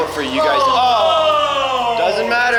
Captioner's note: all shouting